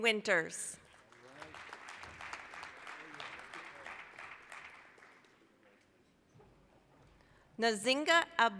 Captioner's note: applause